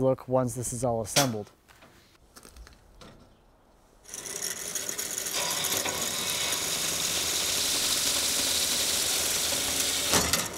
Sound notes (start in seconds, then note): 4.0 machine rattling